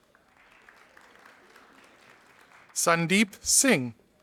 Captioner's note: audience applauding